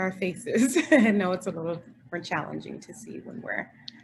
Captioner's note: chuckles